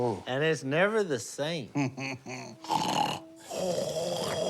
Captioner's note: laughs; snores